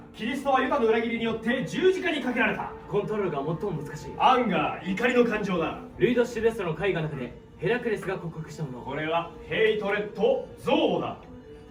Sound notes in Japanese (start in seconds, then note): none